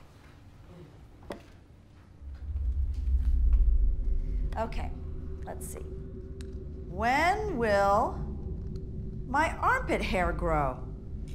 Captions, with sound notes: (foreboding tunnel-like whooshing) - Okay, let's see. When will my armpit hair grow?